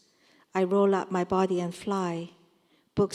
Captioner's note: none